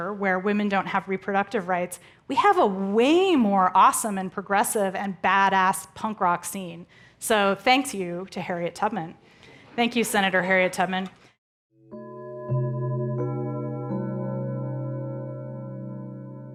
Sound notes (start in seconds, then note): 11.9 tranquil chiming